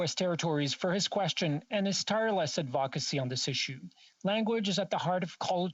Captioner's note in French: voix de l'interprète